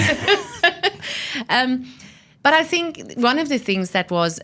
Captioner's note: laughs